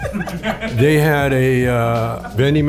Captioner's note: laughs